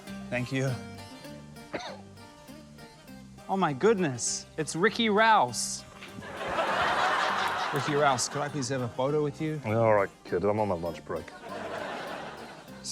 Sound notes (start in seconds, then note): 6.2 laughter